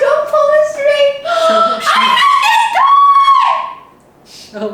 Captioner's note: dramatic gasp